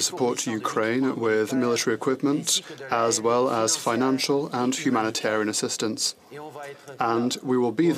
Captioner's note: speaking French